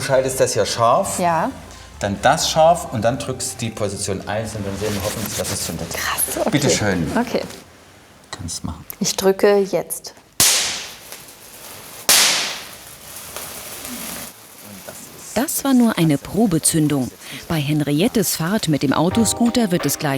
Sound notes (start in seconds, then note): 9.4 Knall